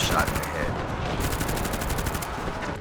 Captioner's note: gunfire